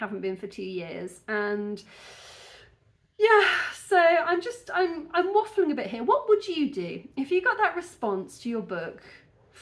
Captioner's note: deep breath